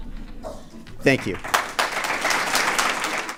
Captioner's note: applause